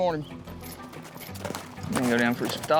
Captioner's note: hoof beats